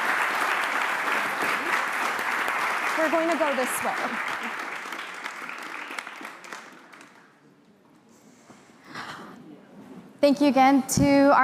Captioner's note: applause